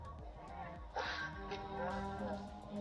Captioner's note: sirens blaring